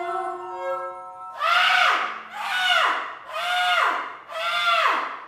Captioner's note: screams